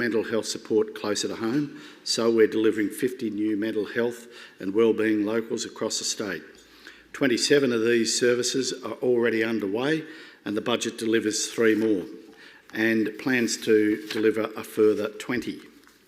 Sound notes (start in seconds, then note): none